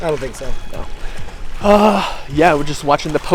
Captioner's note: sighs